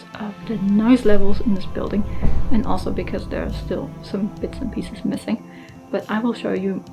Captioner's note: drilling and door slamming in the background